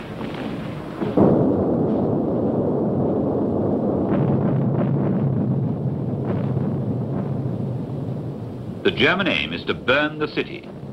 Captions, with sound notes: (explosions booming) The German aim is to burn the city